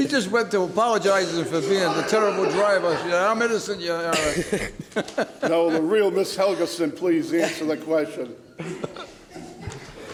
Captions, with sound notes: She just went to apologize for being a terrible driver; I'm innocent, Your Honor. (laughs) Now, the real Miss Helgeson please answer the question.